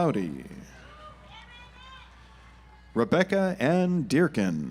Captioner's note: audience applauds